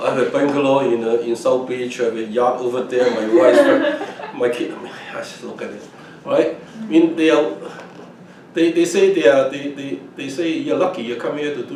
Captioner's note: all laugh